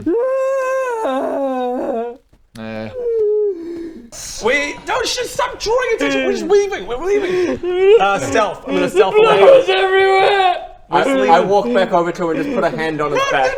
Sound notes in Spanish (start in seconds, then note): 0.0 llanto aún más fuerte; 9.4 sollozando fuerte